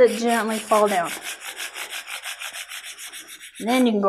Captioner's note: rubbing